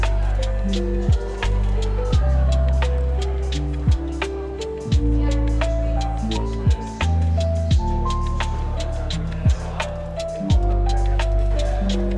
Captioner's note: light background chatter